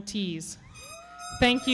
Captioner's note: audience cheering